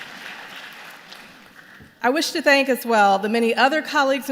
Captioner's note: applause